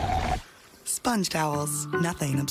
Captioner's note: draining sound